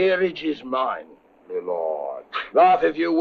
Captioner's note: chuckles